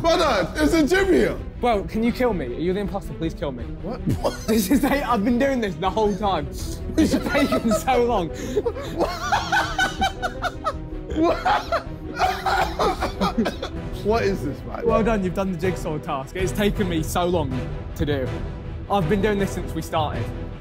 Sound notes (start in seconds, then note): 4.0 laughing; 8.6 laughing loudly